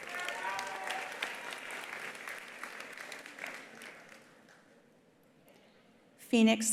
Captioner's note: attendees cheering; attendees applauding